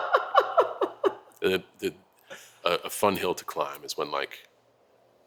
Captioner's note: laugh